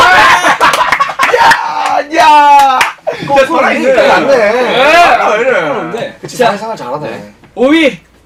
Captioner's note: cheering